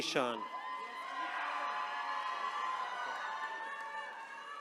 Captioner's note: attendees cheering